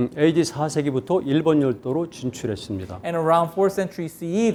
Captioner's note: speaking in Korean